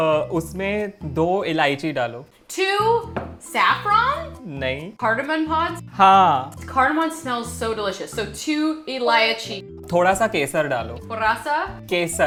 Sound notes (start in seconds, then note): 0.2 speaking in Hindi; 8.7 speaking in Hindi; 9.7 repeating Hindi; 9.7 speaking in Hindi; 12.0 repeating Hindi, annunciating